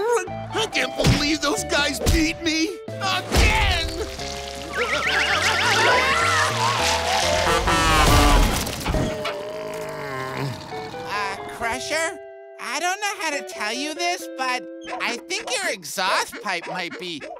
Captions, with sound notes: I can't believe those guys beat me... again! [shouting] [honking] [groaning] Uh, Crusher? I don't know how to tell you this, but I think your exhaust pipe might be...